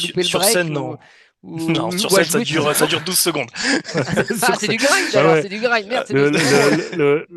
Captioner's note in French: rires